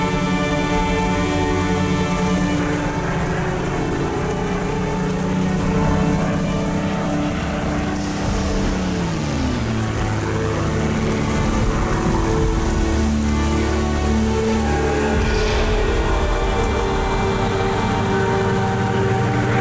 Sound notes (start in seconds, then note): 3.0 plane; 7.4 <i>LIGHTNING STRIKE</i>